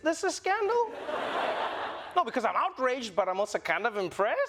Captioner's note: laughter